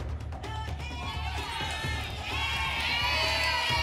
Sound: audience shouting letters

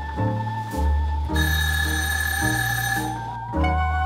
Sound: timer buzzes

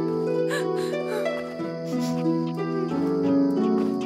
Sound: crying

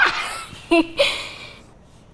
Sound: laughs

